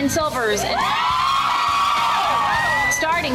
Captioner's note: women cheering